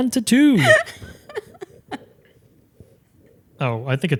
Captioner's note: laughing